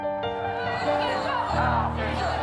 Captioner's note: crowd chanting